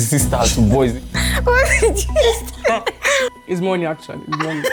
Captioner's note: laughs; laughs